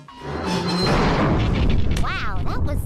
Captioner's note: loud crash